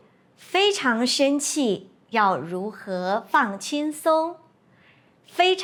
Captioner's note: in Mandarin